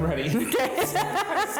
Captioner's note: laughs